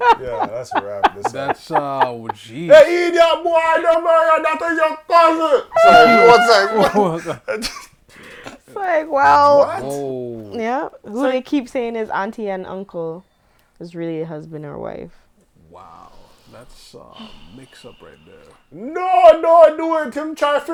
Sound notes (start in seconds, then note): 5.9 laughter